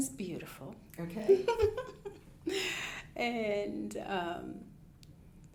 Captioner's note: laughing